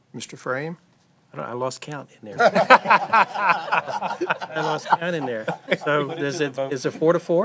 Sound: laughter

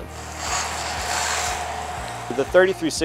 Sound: water spraying

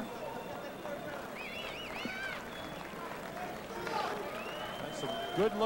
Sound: audience cheers, applauds, and whistles

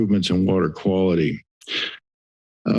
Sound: inhales

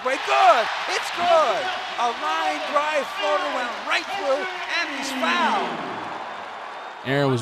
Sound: crowd cheers

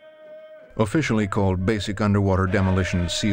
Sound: voiceover

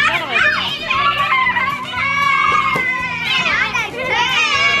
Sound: children yelling

